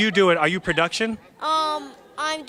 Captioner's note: laughter